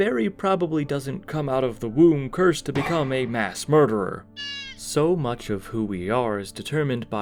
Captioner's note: Mario 64 baby penguin cry